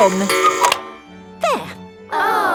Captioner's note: cuckoo clock